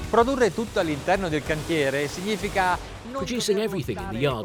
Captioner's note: upbeat music; speaking in foreign language